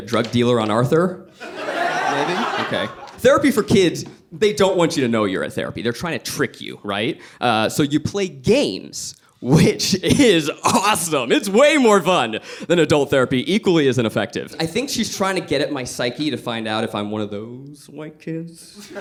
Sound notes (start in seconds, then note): 1.4 audience laughs